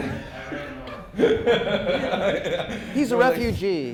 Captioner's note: chuckling